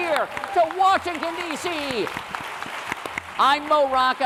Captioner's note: applause